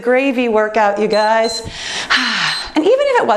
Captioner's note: timer beeps